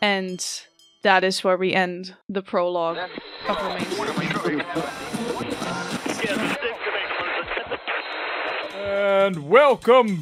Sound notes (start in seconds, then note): 0.1 tinny fire alarm rings; 5.5 static and radio interference; 9.4 upbeat music begins